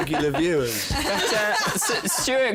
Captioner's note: laughter